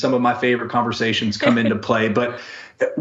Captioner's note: chuckles